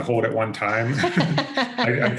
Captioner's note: both laugh